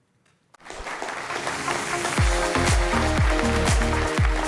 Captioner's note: audience applauding